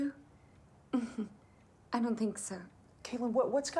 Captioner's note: chuckles